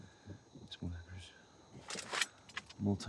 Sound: mutters under breath

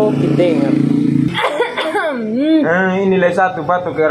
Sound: cough

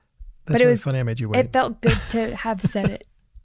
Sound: laughs

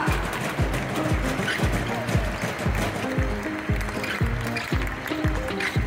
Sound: Publikum stampft mit den Füßen auf die Metalltribüne; audience stomps with their feet on the metal stands; applause; ♫ Midtempo guitar music ♫

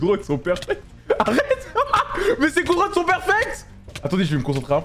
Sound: nervous laughter

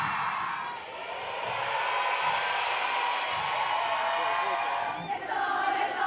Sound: cheering with one mind

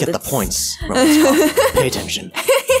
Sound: laughs

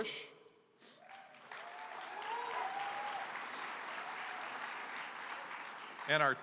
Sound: applause

